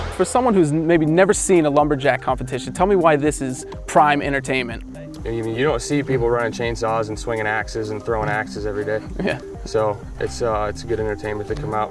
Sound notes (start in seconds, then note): 5.3 voiceover